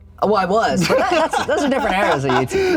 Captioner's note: laughs